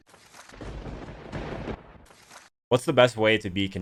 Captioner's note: lightning strike